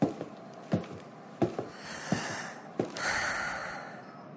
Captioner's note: deep breath